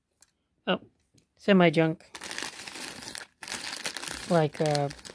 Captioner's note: bag crinkling